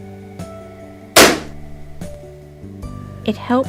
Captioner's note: balloon pops loudly